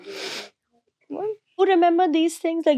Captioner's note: nose sniffling